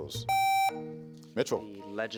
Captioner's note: contestant beeping